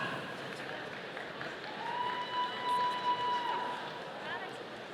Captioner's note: audience applauding